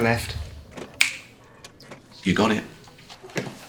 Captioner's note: snaps